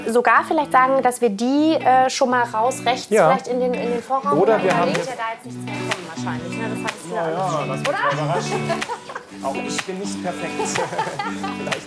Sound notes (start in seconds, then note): 7.1 laugh